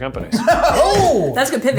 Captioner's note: laughs